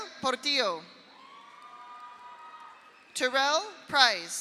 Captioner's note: audience cheers; audience applauds